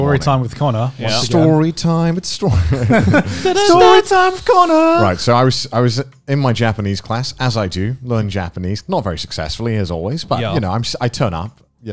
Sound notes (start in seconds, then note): 2.5 laughs; 4.5 humming